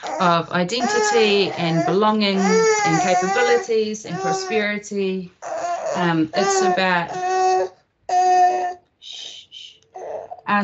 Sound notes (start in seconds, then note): 5.4 baby cries